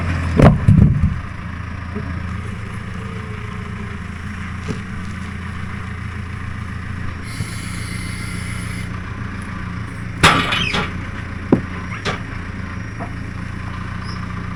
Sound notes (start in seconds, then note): 0.3 wood thudding; 10.2 metal clanging